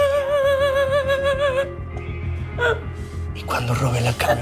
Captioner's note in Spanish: Sollozos